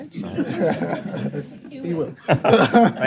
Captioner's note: laughter